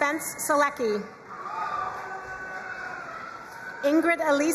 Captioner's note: crowd cheering and applauding